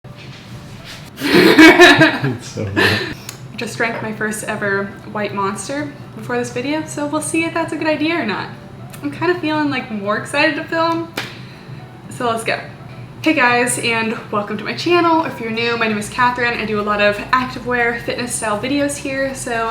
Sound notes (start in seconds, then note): 1.2 laughs